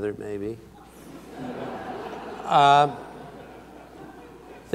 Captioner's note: audience laughs